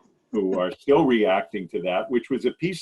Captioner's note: laughs